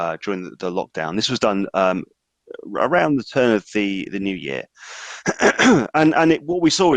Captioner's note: coughs